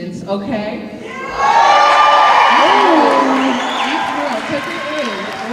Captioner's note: cheering